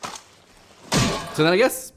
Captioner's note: clunk